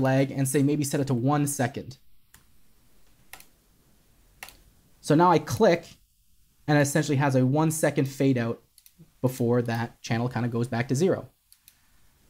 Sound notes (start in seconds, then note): 3.2 keyboard clicking